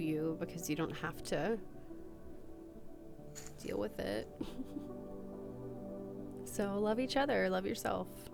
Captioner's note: giggle